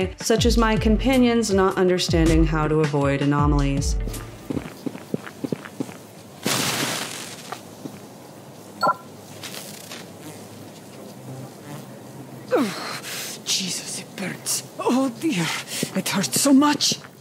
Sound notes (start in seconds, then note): 4.2 footsteps; 6.4 sizzle; 12.5 fox grunts in pain